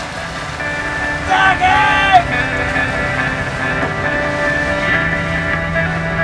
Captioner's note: screams into the wind